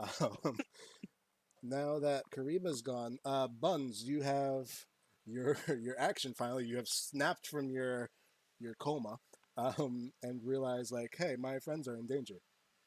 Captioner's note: snapped